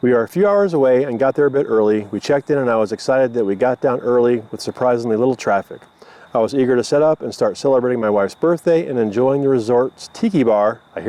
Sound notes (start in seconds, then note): none